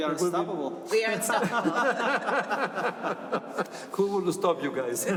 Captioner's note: laughter